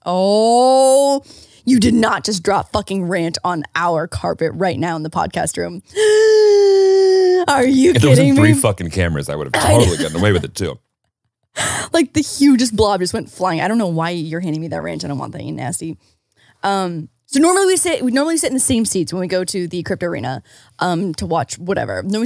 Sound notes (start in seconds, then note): 6.0 gasping